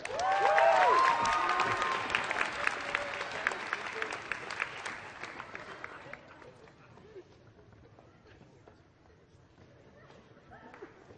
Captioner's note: applause